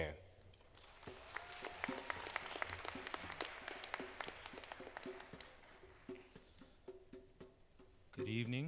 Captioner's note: applause